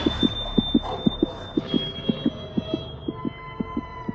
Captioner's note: growling stops